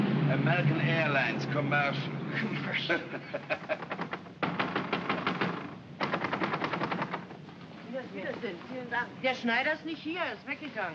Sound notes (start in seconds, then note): 0.2 scoffs; 2.3 both chuckle; 3.6 banging on door; 7.8 speaking in German